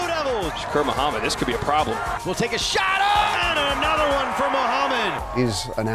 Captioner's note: fans cheering and clapping